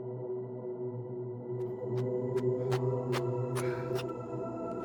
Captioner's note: footfalls tapping